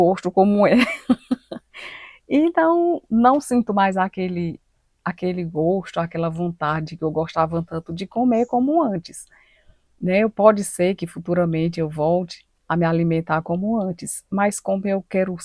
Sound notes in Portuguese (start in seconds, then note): 0.7 risadas